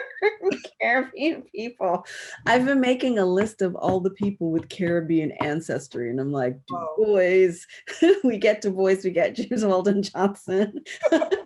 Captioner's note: laughs